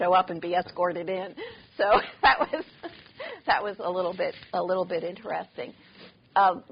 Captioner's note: laughing